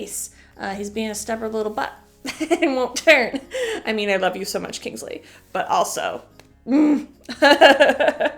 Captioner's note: chuckle; laughter